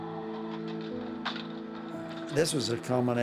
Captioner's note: gate rattling